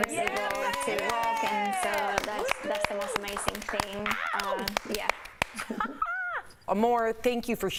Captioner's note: applause